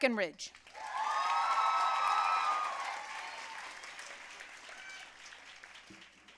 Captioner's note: audience cheering and applauding